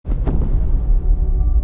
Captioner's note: thunder rumbling